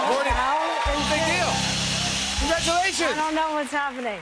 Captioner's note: cheers and applause